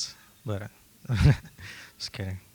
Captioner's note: laughs